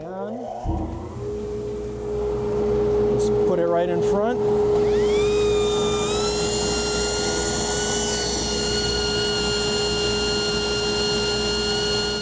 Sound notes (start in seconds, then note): 0.3 mechanical startup; 4.8 high-pitched whirring